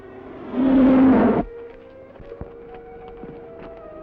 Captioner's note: jet roaring